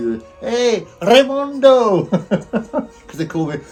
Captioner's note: laughs